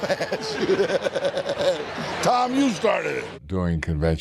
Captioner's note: laughs